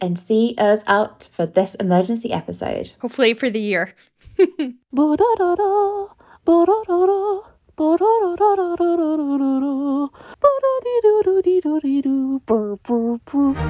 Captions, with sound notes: and see us out for this emergency episode? - Hopefully for the year. (laughs) (vocalizing)